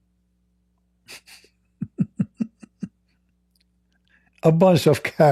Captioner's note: Ketawa